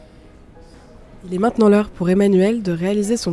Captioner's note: voice-over